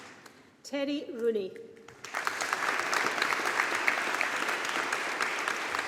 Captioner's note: audience applauding